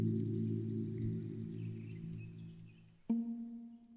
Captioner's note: birds chirping; low music